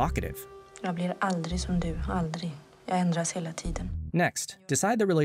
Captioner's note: untranslated Swedish